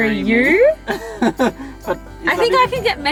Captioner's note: laughs